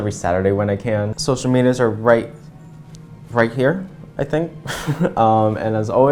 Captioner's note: laugh